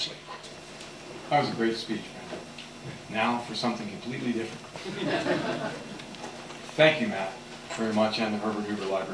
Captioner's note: aughter